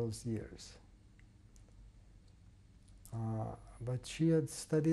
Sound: pauses for 3 seconds

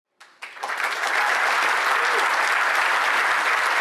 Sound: applause

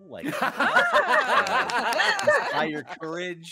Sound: laughing

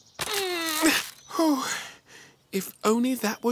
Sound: groans

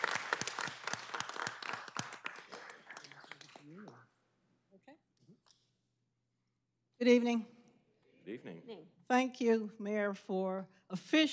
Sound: applause

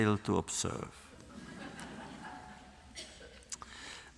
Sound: laughter

